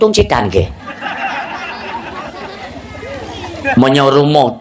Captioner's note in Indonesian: tertawa